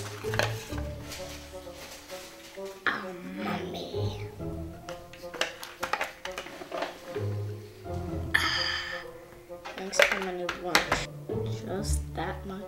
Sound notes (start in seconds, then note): 2.9 growling; 10.0 whispering